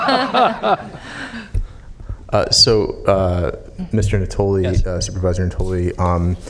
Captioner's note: laughter